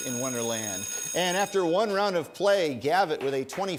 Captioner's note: bell ringing